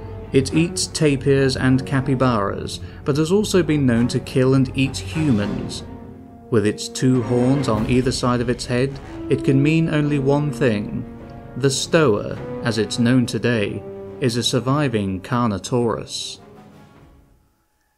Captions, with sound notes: It eats tapirs and capybaras, but has also been known to kill and eat humans. With its two horns on either side of its head, it can mean only one thing... the Stoa, as its known today, is a surviving Carnotaurus... (roar)